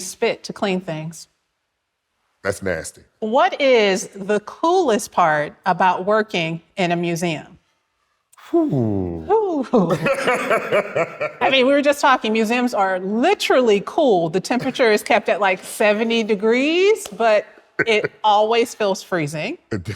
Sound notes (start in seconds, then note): 9.8 laughs